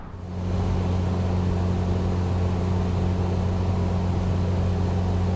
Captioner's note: airplane whooshing